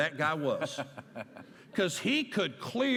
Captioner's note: laughter